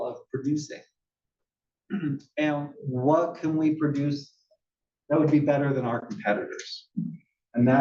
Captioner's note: cough